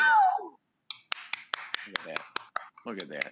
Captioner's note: claps